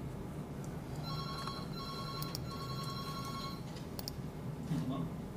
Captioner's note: phone ringing